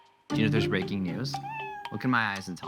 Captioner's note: cat meows